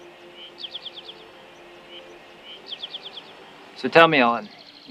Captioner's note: birds tweeting